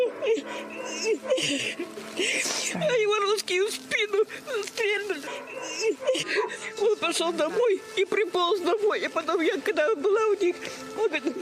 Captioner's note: crying